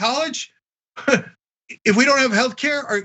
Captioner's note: laugh